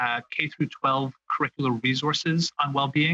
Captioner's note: speaking French